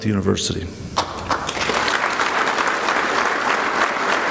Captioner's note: clapping